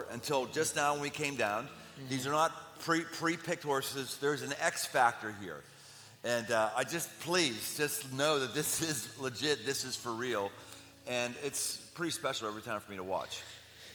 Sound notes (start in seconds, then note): none